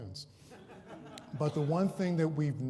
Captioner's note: laughter